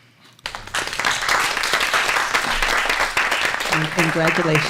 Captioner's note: applause